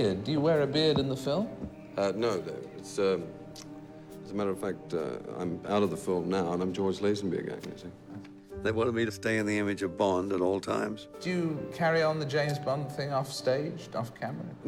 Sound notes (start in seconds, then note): none